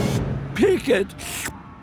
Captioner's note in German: Schlürf